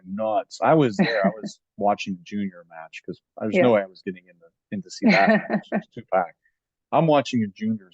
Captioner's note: laughing